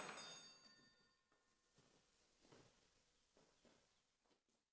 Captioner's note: doorbell